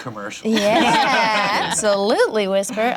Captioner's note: laughter